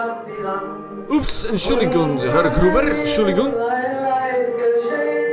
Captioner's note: in German